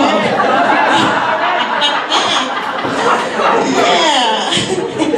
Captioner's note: audience laughs